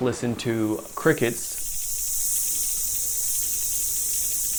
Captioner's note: crickets chirping